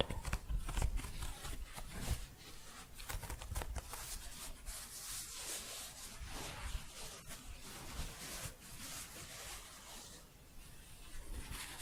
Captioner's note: shuffling